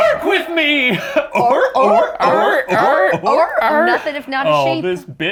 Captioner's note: all barking like seals